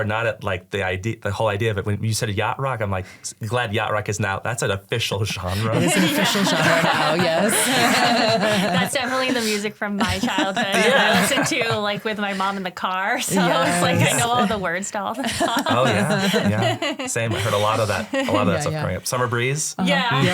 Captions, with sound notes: not at like the whole idea of it. When you said a yacht rock, I'm like, glad yacht rock is now, that's an official genre. - It is an official genre now, yes. (all laugh) - That's definitely the music from my childhood. I listen to like with my mom in the car, so like I know all the words to stuff. - Oh yeah, yeah. Same, I heard a lot of that, a lot of that stuff coming up. "Summer Breeze." - Yeah.